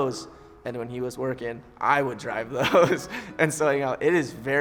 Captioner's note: laughing